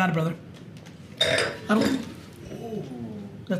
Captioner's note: clanging